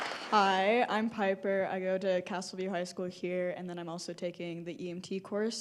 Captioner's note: applause